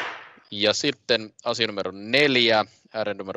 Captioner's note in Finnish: nuijan kopautus